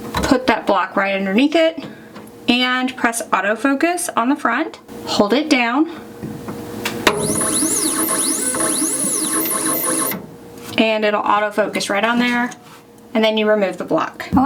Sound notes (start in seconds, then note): 7.0 machine whirs